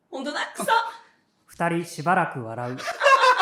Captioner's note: they both laugh for a while